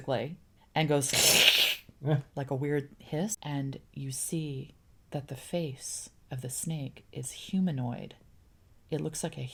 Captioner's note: hissing sound